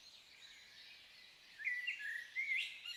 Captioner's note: birdsong